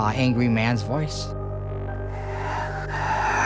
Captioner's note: whisper